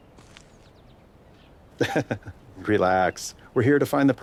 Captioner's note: laughs